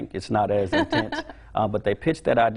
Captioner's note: laughing